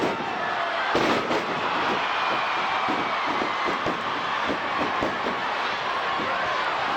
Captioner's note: crowd chattering; stage clattering